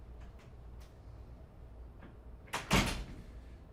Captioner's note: door closing